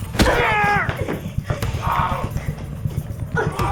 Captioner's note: Aunspach moans; exciting and tense music